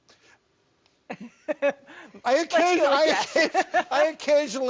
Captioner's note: laughs